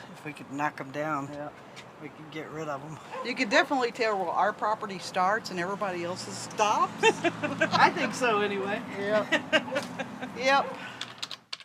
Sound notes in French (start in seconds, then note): 7.0 gloussements; 9.0 Rires